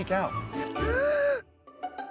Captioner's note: gasps